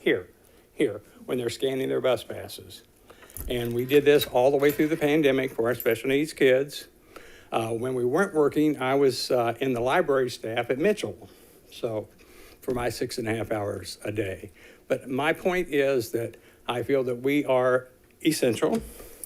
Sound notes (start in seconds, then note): none